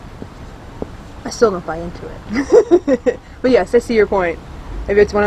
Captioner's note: laughs